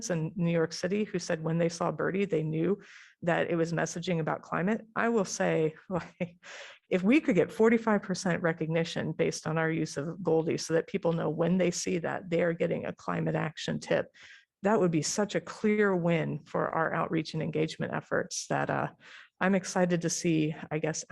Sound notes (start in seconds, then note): 5.9 laughter